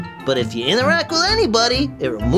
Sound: none

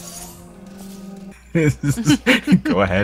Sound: laughing

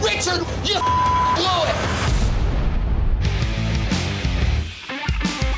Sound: beep; upbeat rock music

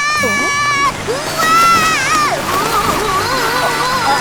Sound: Wilk yelling

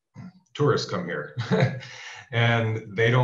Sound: laughing

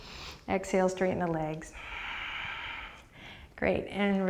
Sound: deep breath; deep breath

